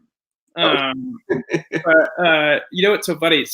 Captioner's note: chuckles